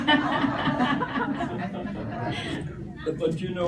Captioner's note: laughter